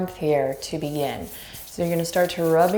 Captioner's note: hands rubbing together